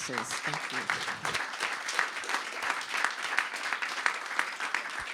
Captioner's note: audience applauds